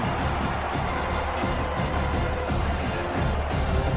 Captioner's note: crowd Noises